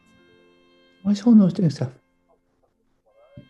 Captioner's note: quietly